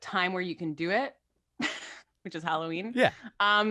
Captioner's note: giggles